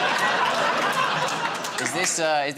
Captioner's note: laughter